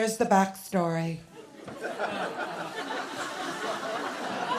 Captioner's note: laughter